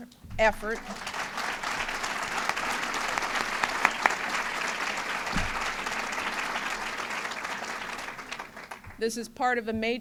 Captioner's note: applause